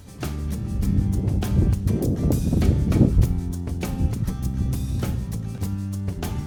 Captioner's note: country instrumental music; wind blowing; country instrumental music